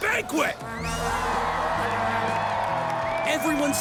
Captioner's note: the crowd cheers behind him